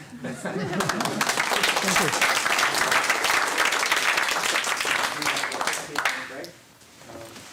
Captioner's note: applause